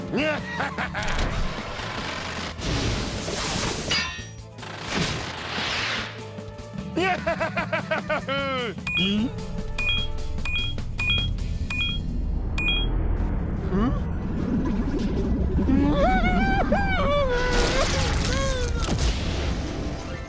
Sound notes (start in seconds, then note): 0.1 evil laughter; 3.7 clink; 7.0 laughing; 10.0 beeping; 15.9 whimpers nervously